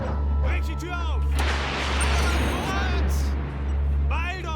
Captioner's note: dog barking; speaking german